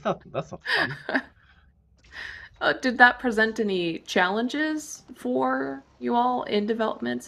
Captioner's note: laughs